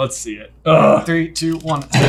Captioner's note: groans